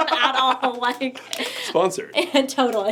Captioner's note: laughter